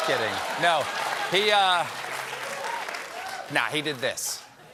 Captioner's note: applause